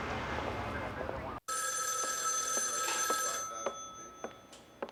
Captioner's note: phone ringing